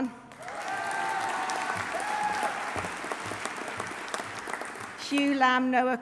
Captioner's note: audience applauding; audience cheering